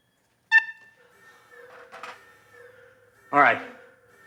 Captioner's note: alarm wails